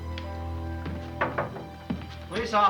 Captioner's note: knocking